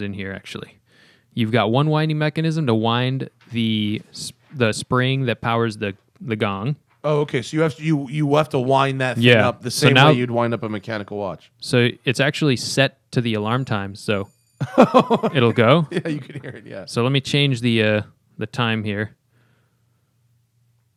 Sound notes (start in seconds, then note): 14.0 soundbite of bell; 14.6 laughter